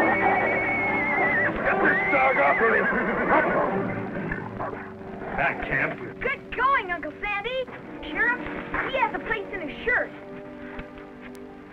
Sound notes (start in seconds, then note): 0.0 neighs